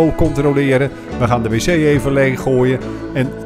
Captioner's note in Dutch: Voiceover